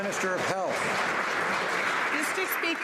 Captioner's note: some Applause